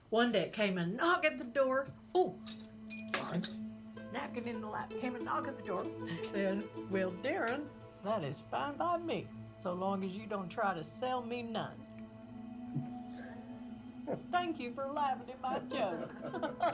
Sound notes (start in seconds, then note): 12.7 chuckles